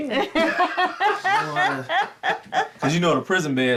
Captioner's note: people laughing